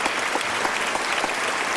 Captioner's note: applause